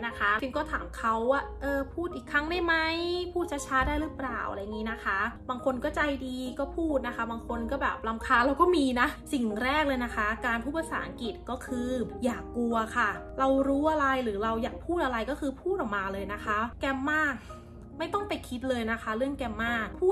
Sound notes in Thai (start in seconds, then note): 17.4 เสียงหายใจแรง